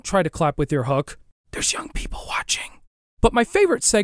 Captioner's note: whispers